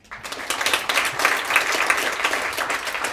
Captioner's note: applause